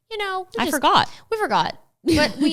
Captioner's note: laughs